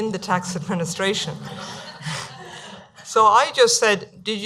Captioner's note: laughing